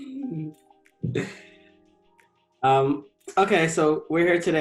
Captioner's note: chuckles